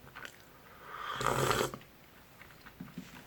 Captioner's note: the sound of drinking soup